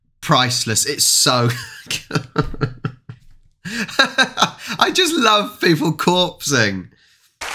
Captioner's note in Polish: śmiech; Aplauz